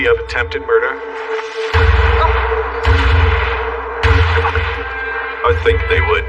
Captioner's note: gunshots